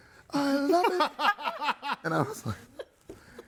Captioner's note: hosts laughing